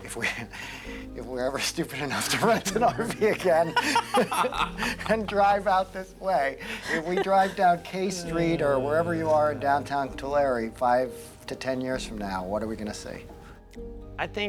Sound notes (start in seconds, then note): 1.5 laugh